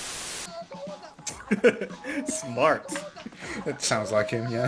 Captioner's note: laughs